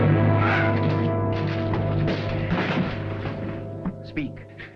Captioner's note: officer groaning